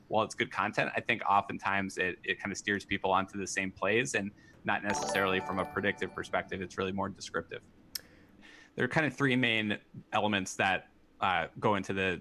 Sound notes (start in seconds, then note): 4.8 popup chimes